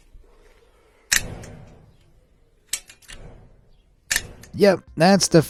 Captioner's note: gate clicking